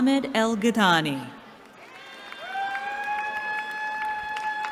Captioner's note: cheering